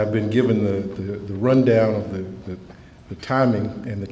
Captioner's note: none